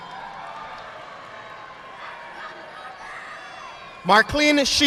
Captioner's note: audience applauding